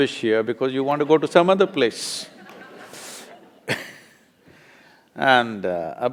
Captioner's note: laughter